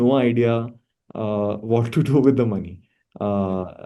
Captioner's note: laughs